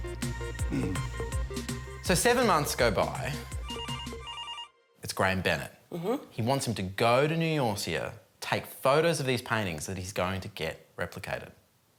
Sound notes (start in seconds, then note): 0.6 clears throat; 3.6 phone rings